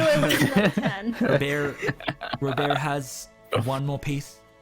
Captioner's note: laughter